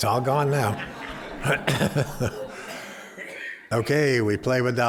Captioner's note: laughter